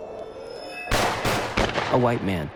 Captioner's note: gunshots